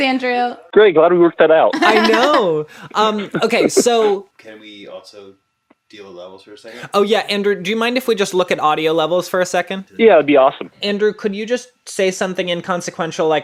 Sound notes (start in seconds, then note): 2.8 laughs